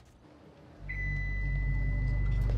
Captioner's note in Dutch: lift pingt; suspenseful music